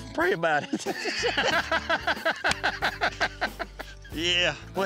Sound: laughter

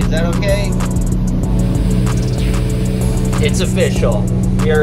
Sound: boat engine humming; smooth electronic music

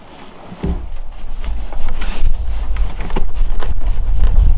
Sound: cloth swishing

